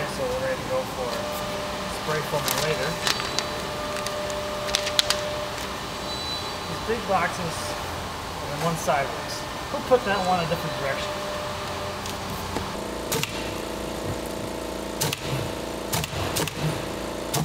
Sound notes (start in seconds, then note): 13.1 stapling